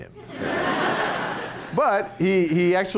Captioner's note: laughter